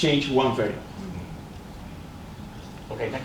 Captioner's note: crowd murmurs